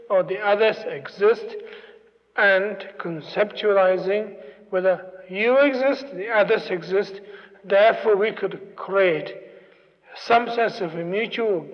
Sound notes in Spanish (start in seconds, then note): none